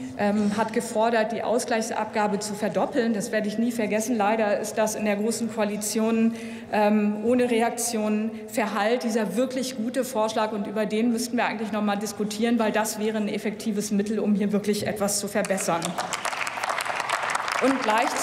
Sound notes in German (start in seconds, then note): 15.4 Applaus